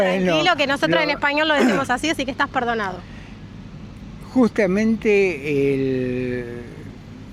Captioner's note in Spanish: carraspeo